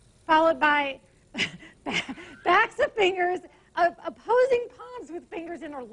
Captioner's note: laughs